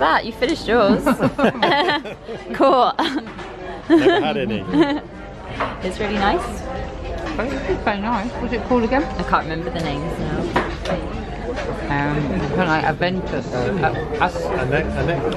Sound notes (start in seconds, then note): 3.6 laughing